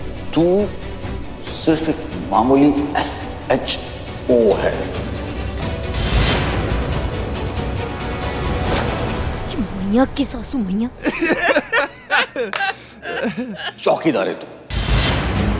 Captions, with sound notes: You are an ordinary SHO! [dramatic music plays] How dare he! [laughing] You are a security guard!